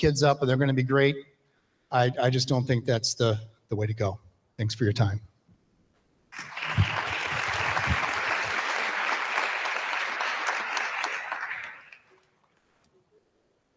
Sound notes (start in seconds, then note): 6.3 audience applauding